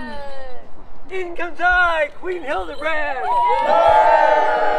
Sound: cheers

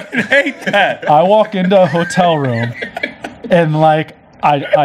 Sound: laughs

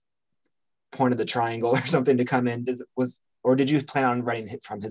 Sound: chuckles

